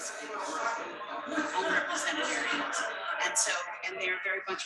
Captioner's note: people chattering indistinctly